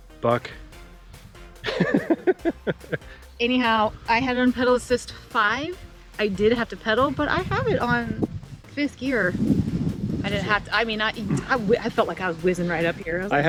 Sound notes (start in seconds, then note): 1.6 laughing